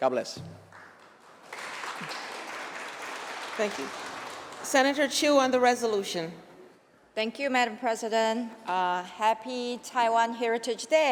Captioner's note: applause